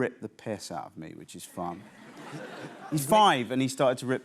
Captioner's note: laughter